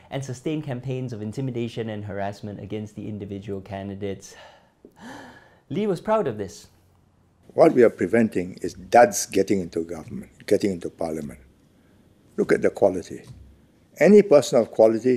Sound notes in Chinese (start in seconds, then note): 4.3 喘大气